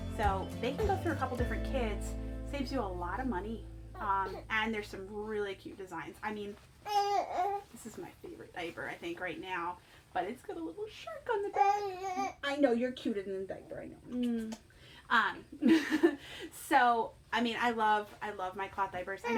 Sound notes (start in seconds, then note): 11.5 baby babbles; 15.5 laughs